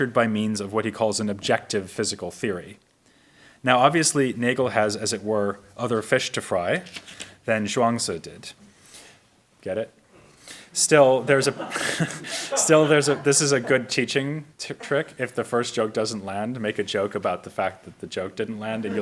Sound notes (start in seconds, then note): 11.1 audience laughs; 11.2 chuckles